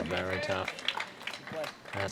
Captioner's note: applause